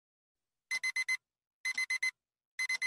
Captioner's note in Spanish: Despertador